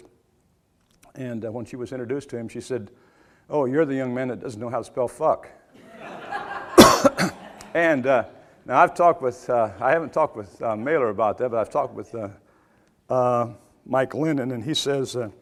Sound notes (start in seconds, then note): 5.8 audience laughter